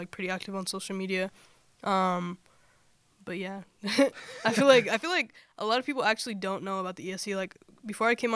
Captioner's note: laughter